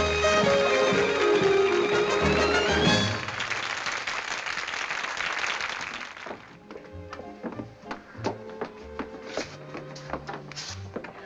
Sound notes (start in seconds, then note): 3.3 all applauding